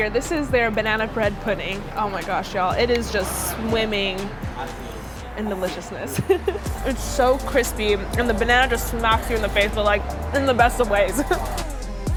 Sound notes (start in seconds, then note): 6.0 laughs